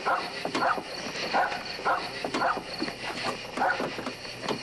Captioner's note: dog barking